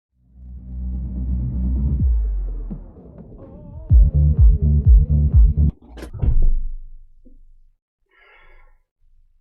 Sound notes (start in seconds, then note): 5.9 ground thudding